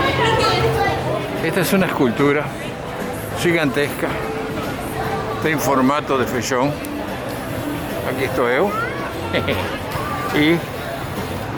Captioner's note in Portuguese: risos